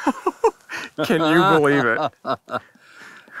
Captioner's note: laughs